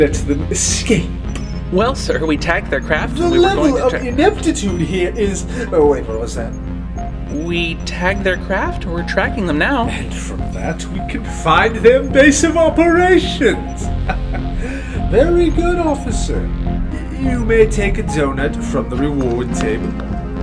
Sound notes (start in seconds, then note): 14.0 chuckle